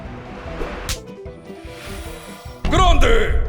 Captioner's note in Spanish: Sonido de cupón